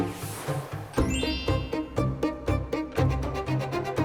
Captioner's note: sparkling sound effect